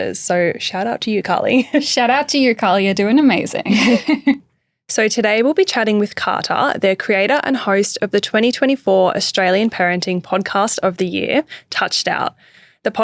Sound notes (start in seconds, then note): 3.6 chuckles